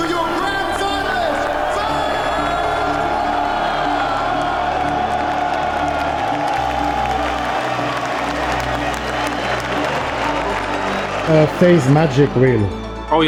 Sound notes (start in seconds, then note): 3.4 crowd cheering; 6.1 crowd clapping